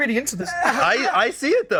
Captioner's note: laughs